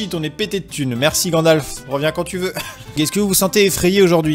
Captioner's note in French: rires